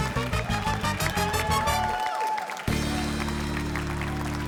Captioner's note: cheering